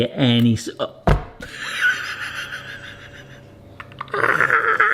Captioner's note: person laughing